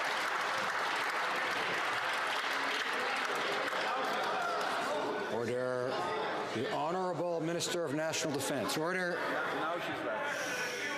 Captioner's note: some Applause